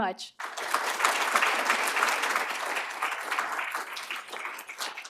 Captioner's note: applause